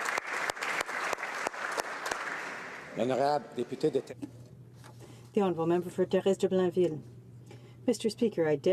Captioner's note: some Applause